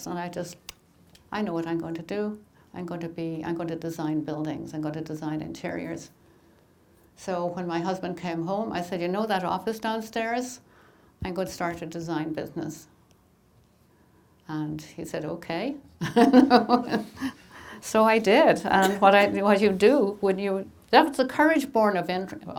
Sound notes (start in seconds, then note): 16.0 laughing